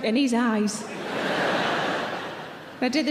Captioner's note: audience laughing